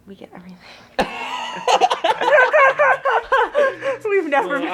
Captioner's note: Elle and Justice laughs